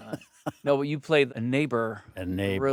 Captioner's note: Stellan laughs